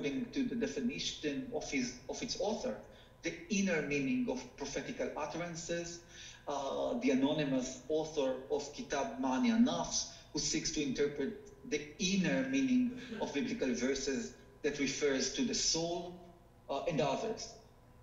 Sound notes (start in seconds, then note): 8.6 speaking foreign language